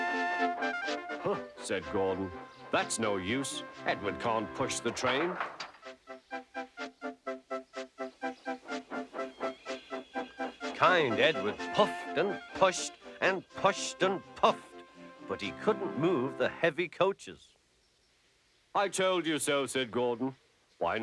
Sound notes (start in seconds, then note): 8.7 screeching